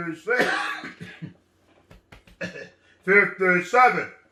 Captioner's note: clears throat